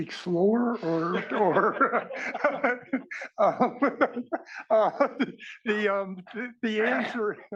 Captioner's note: laugh